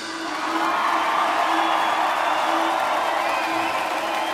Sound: audience cheering

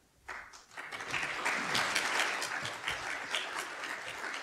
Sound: audience applauds

